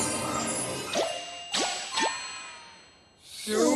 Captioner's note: ding! ding! ding!